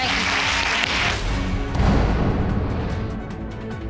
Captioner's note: audience cheers and applauds